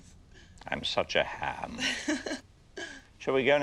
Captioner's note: Jane chuckles